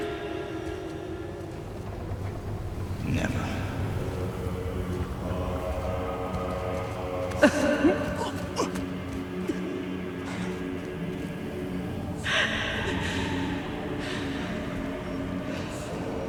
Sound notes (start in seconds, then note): 7.4 crying